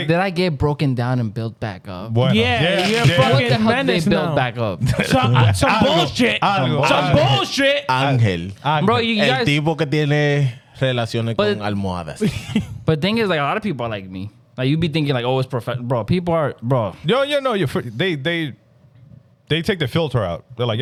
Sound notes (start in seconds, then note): 8.8 speaking In Foreign Language